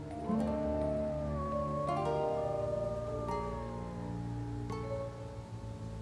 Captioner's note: distant wolf howl